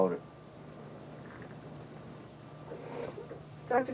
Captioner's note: sniffs